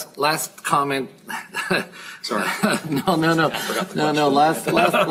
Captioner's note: chuckle